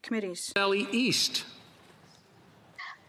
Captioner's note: speaking French